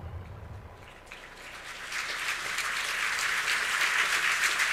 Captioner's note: audience applauding